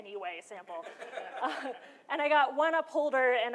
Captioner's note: laughter